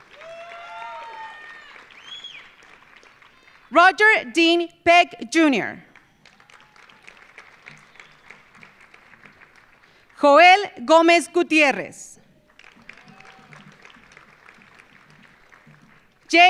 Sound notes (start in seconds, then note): 0.0 audience cheering; 0.0 audience applauding; 5.9 audience applauding; 12.3 audience applauding